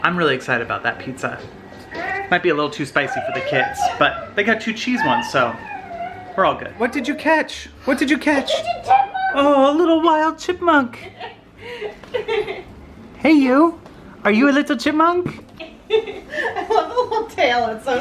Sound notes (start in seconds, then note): 10.9 laughing